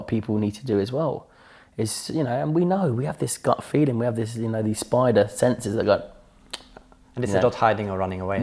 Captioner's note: mouth clicks